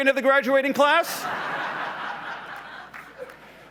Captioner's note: laughs